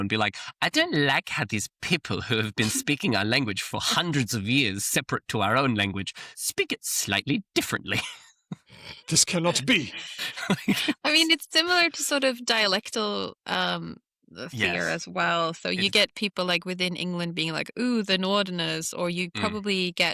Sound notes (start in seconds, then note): 0.5 in a haughty tone; 8.5 laughs; 9.4 in a haughty tone